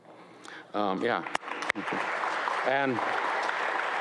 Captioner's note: audience applauds